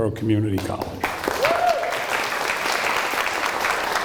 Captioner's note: applause